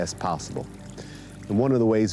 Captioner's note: water trickling